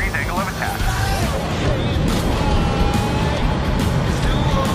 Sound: engines roaring

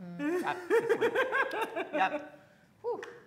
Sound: laughing

